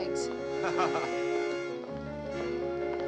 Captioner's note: laughs